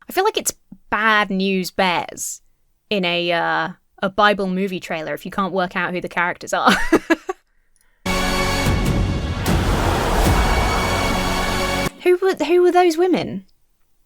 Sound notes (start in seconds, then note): 6.6 laughs; 8.0 dramatic music; 8.1 congregation cheers